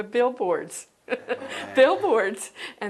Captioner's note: laughter